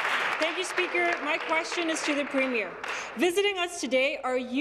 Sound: applause

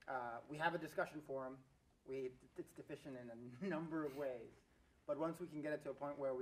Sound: laugh

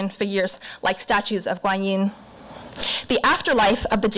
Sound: foreign language

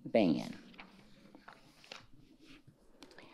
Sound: pages rustling

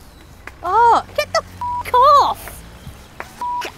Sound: feeble clapping

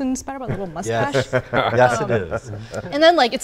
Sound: laughing

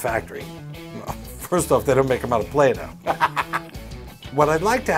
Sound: laughs

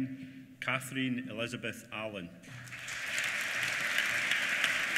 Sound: applause

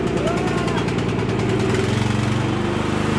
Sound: fearful screaming

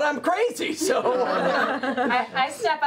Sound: laughter

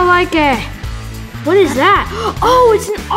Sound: gasp

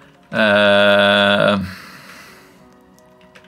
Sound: groans

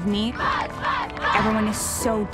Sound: cheering

